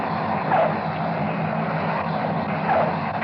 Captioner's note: tires screech